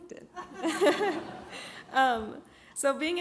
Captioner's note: all laugh